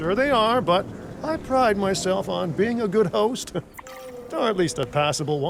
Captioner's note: laughing